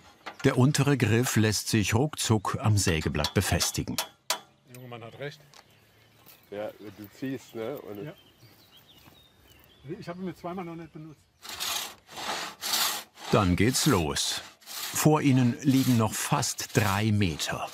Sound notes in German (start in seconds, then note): 4.8 Leise Gesprächsfetzen